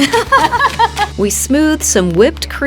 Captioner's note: both laugh